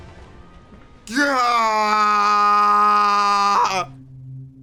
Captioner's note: groans